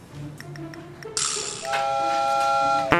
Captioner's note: holding back laughter